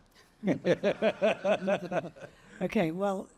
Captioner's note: Jeffrey laughing